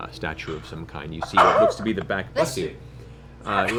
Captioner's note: sneezes